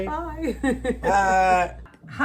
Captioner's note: laughs